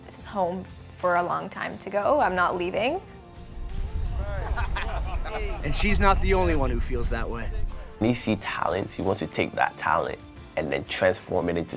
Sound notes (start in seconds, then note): 4.3 laughter